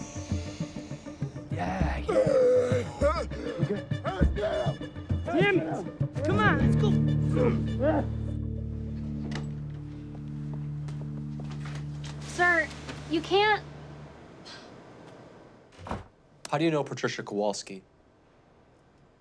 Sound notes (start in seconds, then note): 0.0 Jimmy deep inhaling; 2.0 Jimmy gasps; 7.5 tense music